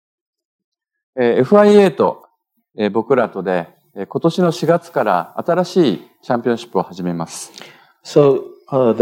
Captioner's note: speaking japanese